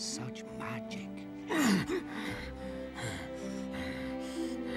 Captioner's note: grunting